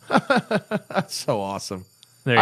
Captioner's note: soundbite of alarm sounding; laughter